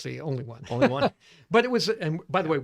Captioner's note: laughs